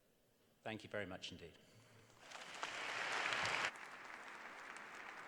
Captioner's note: applause